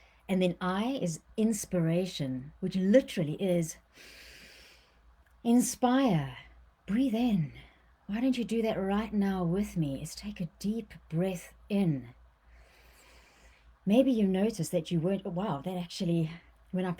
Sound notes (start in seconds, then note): 4.0 inhales; 12.6 inhales